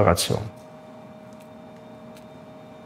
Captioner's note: low machine whirring